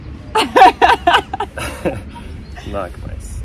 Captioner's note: laughs